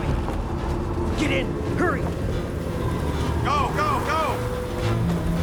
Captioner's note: wind whistling